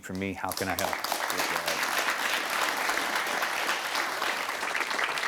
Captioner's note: audience applauding